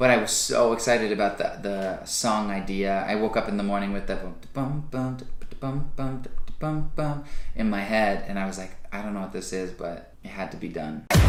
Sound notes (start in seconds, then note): 4.4 vocalizes